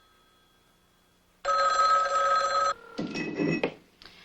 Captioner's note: phone rings